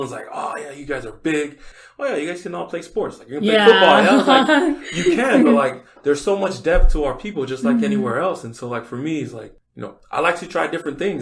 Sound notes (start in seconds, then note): 3.4 laughs